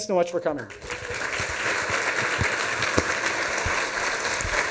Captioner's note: applause